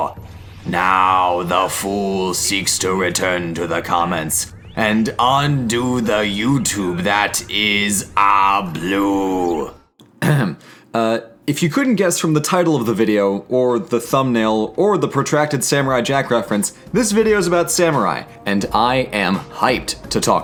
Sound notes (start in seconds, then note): 10.0 ahem